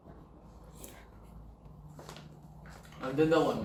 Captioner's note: slurp